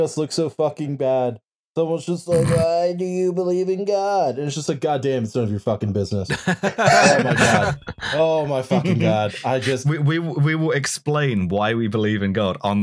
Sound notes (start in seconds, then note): 2.3 snorts; 6.2 laughter